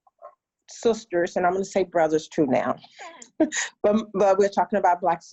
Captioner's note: laughs